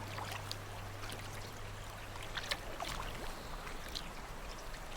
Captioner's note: water splashing